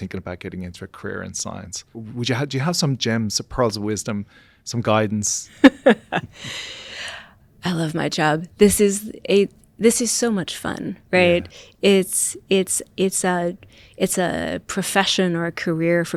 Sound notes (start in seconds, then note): 5.6 laughter